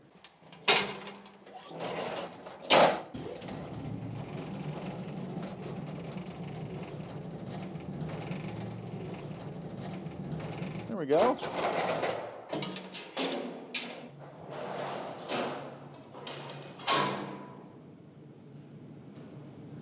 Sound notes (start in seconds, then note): 5.3 door bangs